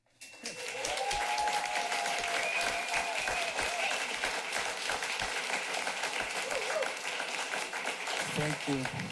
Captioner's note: applause and cheers